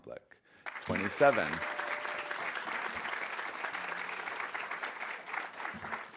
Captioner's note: audience applauding